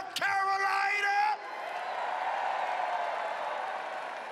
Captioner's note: cheering and applause